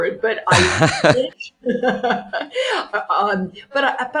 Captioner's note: laughs